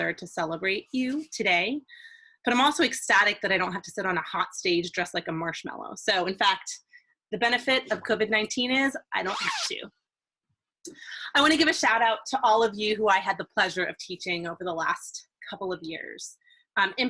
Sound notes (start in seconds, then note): 9.2 fast zip